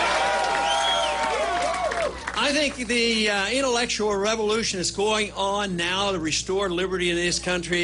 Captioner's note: applause